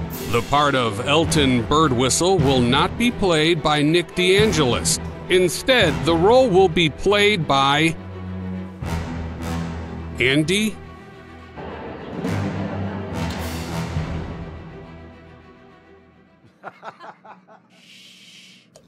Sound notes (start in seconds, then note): 11.7 audience murmur; 16.6 audience snickering